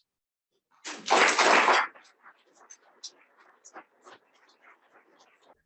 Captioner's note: audience applauding